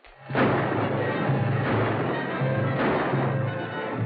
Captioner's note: gunshots